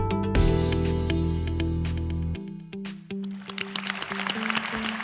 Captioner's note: applause